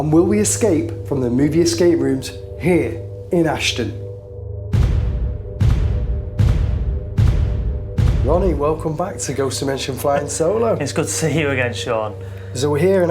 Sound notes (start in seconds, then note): 4.7 loud repeated thumping